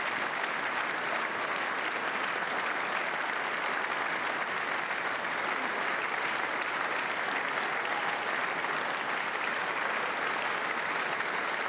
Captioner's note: applause